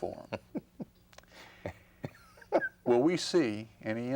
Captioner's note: Kay laughing